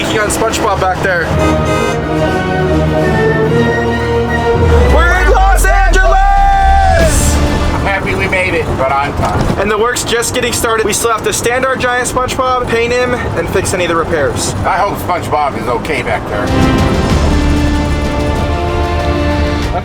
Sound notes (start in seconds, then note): 0.0 dramatic triumphant music; 1.1 horn honking; 7.1 intriguing triumphant music; 16.3 intriguing dramatic triumphant music